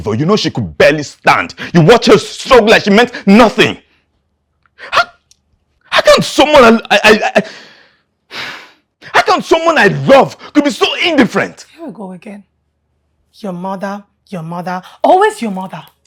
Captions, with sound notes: You know she could barely stand. You watch her struggle like she meant nothing. (Stutters) How... how can someone I... How can someone I love, be so indifferent? Here we go again–your mother, your mother. Always your mother.